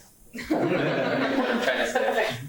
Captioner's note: laughing